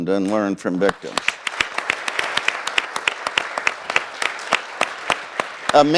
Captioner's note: audience applauding